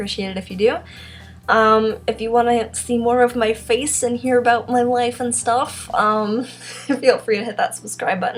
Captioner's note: laughs